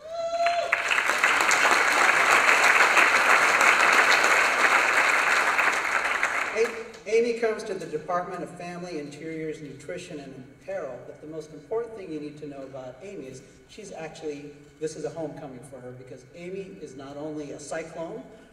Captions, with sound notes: [ Applause ] Amy comes to the Department of Family Interior's nutrition and apparel, but, the most important thing you need to know about Amy is she's actually, this is a homecoming for her because Amy is not only a cyclone